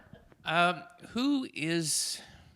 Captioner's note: chuckle